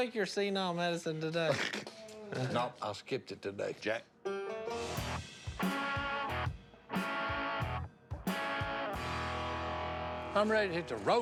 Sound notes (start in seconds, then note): 1.6 laughs